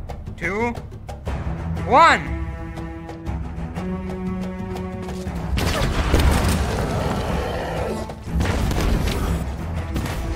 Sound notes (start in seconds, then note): 5.6 explosion